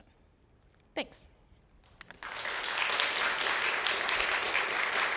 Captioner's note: applause